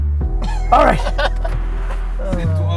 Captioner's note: laughs